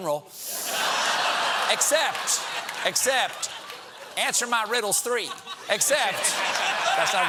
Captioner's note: laughter